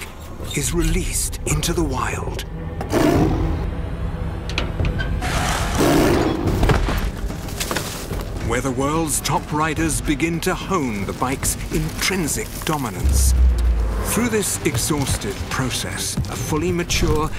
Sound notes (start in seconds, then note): 2.8 roar; 4.2 rattle; 5.2 roar